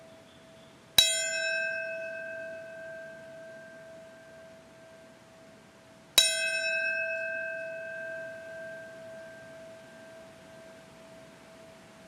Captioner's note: bell rings